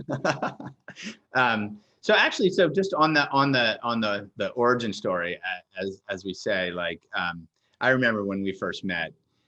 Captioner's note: laughs